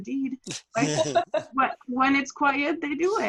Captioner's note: group laughter